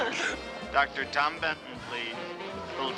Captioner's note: man on microphone